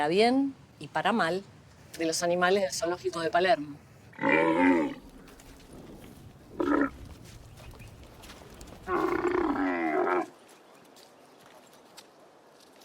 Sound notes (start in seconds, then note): 5.6 camel snore